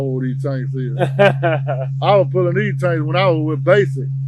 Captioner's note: host laughs